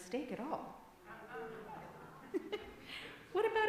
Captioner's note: congregation murmurs negatively; laughs